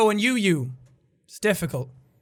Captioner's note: mumbles